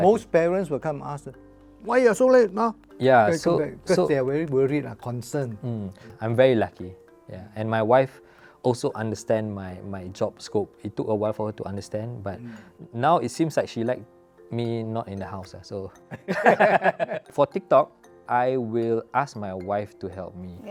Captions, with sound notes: Most parents will ask "Why are you so late ah?" Because they're very worried, concerned. I'm very lucky. And my wife also understands my job scope. It took a while for her to understand, but now it seems that she likes me not being in the house. (laughs) For TikTok, I will ask my wife to help me.